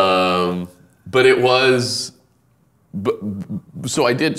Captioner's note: laughing